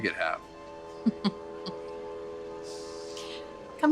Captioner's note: laughing